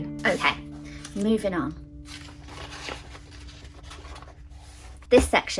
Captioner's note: paper rustling